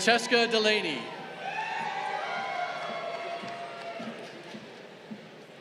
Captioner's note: crowd cheering